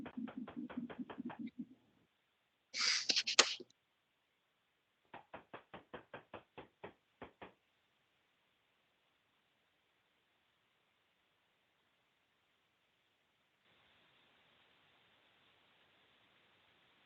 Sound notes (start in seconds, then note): 0.0 listener tapping